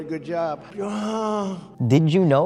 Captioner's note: Donald Trump groaning